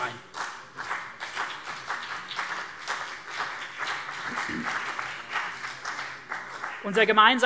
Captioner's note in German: Beifall CDU und BÜNDNIS 90/DIE GRÜNEN